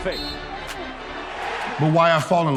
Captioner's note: whistle